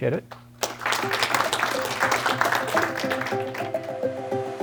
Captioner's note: applause